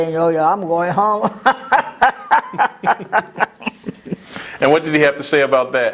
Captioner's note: laugh